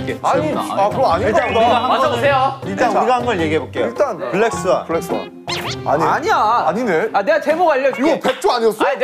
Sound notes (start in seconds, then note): 5.7 laugh